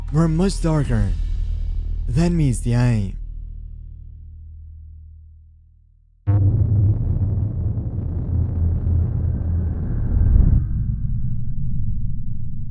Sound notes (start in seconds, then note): 6.3 distorted noise; 10.3 deep thud